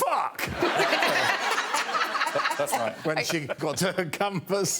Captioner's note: laughter